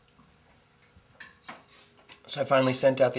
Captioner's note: light clinking of silverware